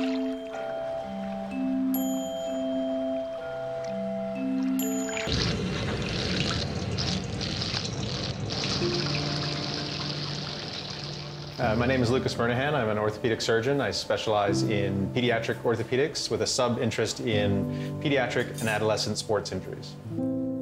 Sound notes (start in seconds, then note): 5.3 water splashing